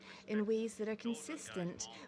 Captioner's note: speaking French